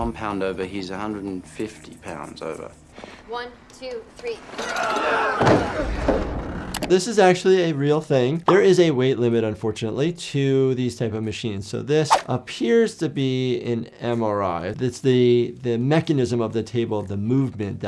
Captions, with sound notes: - He's not one pound over, he's 150 pounds over. - 1, 2, 3. (medical staff grunts) - This is actually a real thing. There is a weight limit, unfortunately, to these type of machines. So, this appears to be an MRI. It's the mechanism of the table, the movement,